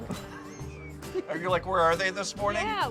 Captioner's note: laughing